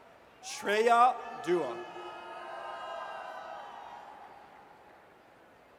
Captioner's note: audience cheers